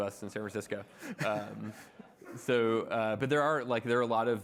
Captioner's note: audience laughing